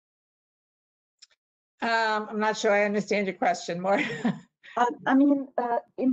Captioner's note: laughter